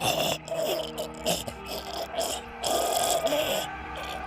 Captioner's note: choking